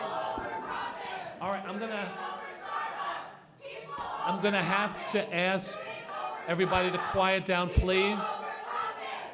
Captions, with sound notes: all right I'm gonna (students chanting) I'm gonna have to ask everybody to quiet down please